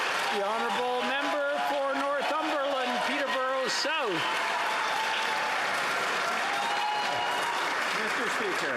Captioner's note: some Applause